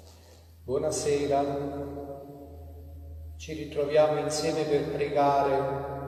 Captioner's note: priest speaks in foreign language